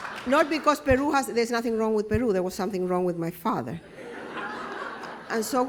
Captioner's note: laughter